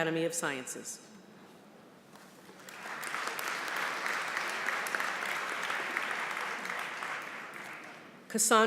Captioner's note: applause